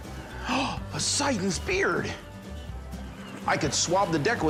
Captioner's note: gasps